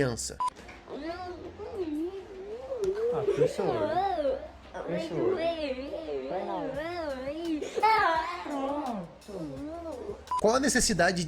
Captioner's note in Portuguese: choro